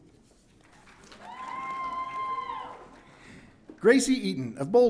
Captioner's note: audience cheering